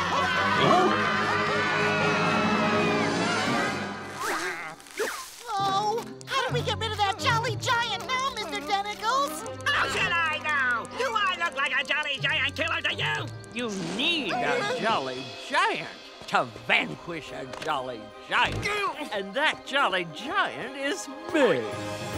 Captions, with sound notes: Huh? [screaming] Oh, how do we get rid of that jolly giant now, Mr. Tentacles? How should I know?! Do I look like a jolly giant killer to you?! You need a jolly giant to vanquish a jolly giant. And that jolly giant is me!